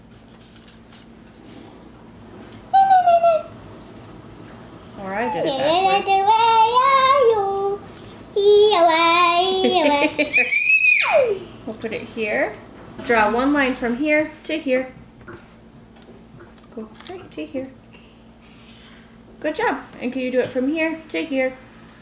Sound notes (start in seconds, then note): 3.0 vocalizing; 6.3 laughing; 10.2 screaming